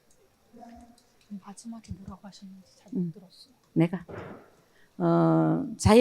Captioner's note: both speaking in foreign language